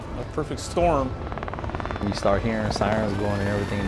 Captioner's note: helicopter flying overhead